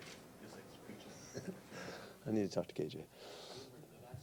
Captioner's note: laughs